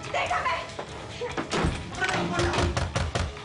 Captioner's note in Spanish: Portazo